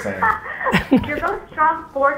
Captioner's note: Gary laughs